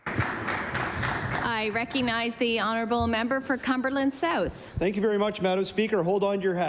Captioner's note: applause